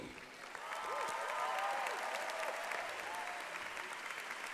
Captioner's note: applause